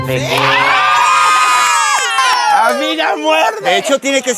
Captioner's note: collective gag